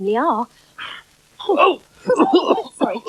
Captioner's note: Toby Coughs